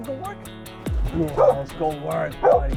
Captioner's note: bark!